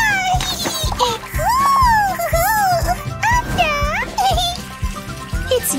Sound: making happy sounds

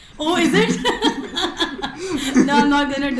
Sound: laughs

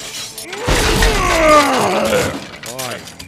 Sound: wall crashing

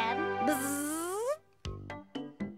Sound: Tizzy buzzing; cheerful music

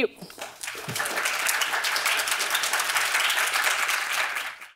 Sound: audience applauding

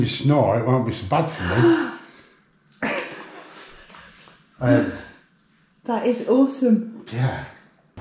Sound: laugher

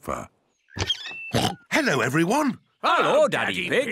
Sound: oinks

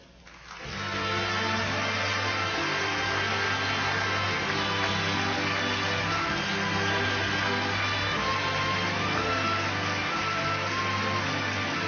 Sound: applause on video

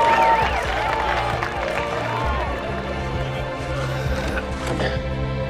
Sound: cheers and applause

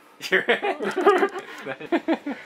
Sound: laughs

